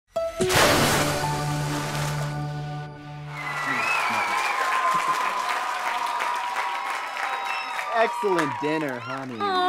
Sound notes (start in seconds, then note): 3.2 audience clapping and cheering